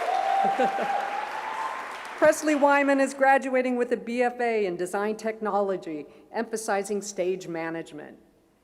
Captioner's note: cheers